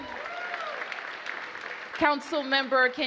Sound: applause

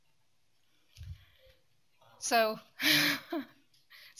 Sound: laughs

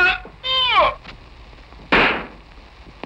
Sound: screaming; gunshot

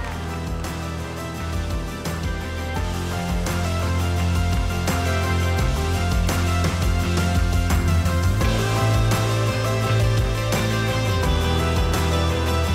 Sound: cheers and applause

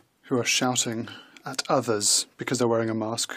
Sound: speaking in French

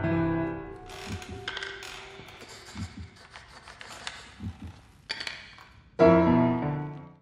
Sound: piano playing; abrupt stop, creaking sound; piano continues

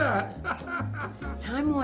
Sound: laughs

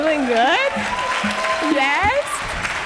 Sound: applause

